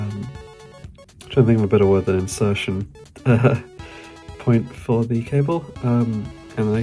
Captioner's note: laughing